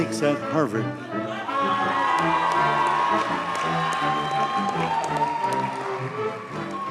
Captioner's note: audience cheers and applauds